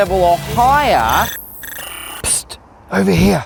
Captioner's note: glitching noises